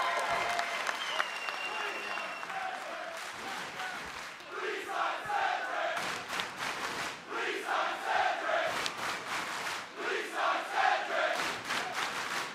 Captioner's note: applause